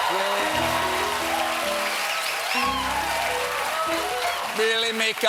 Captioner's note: cheers and applause; piano riff